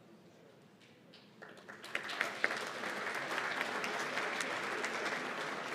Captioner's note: applause